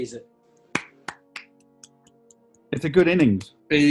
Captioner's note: applauding